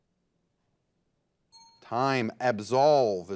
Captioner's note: signal dings